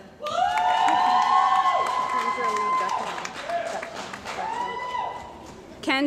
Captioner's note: cheering & Applause